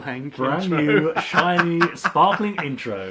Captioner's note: laughs